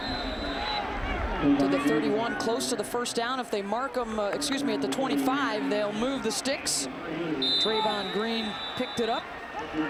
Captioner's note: applause